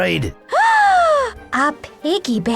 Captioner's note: Mog gasps